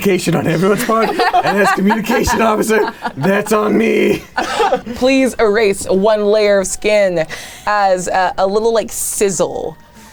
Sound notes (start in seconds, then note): 0.6 group laughing